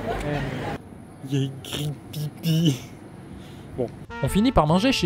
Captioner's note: in an idiotic tone